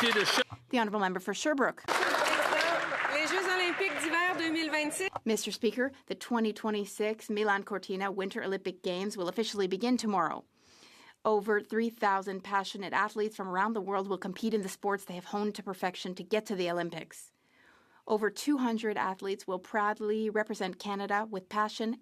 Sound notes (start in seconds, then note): 4.0 applause; 8.1 speaking French